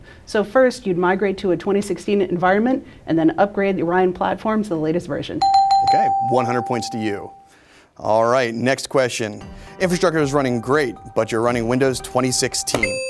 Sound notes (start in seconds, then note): 5.4 dings